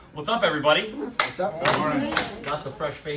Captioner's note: claps hands